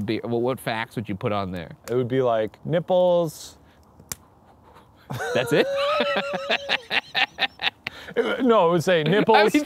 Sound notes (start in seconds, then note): 6.4 laughing